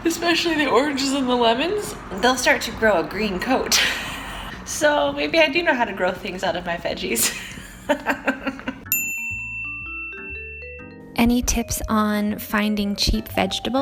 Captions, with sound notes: especially the oranges and lemons, they'll start to grow a green coat, so maybe I do know how to grow things out of my veggies! [laughs] [bell dings] Any tips on finding cheap vegetables?